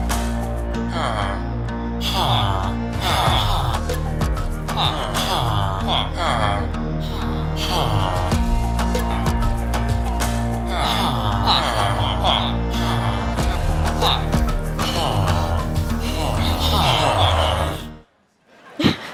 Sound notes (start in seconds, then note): 0.0 villager sounds; 5.6 villager sounds